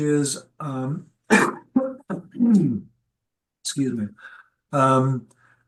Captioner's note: coughs